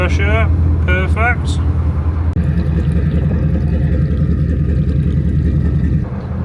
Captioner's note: engine noise